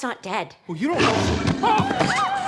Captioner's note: alligator growls